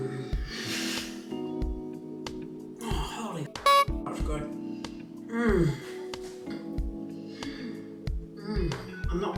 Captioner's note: many moans of enjoyment